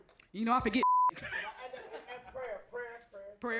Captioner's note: beep